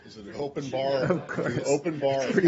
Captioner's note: laughter